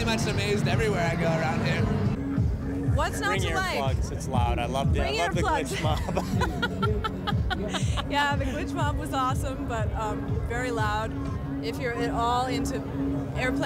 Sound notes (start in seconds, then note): 5.7 laughs